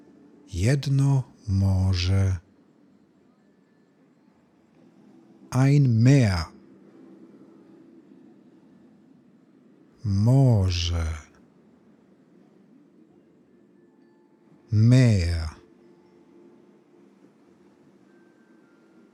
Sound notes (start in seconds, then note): 6.5 german; 15.4 german